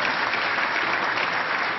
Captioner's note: applause